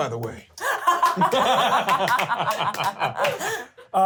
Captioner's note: laughter